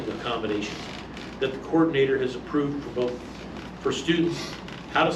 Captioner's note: stammers